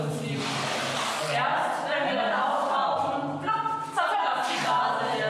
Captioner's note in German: blub